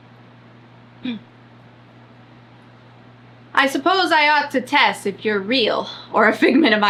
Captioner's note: clears throat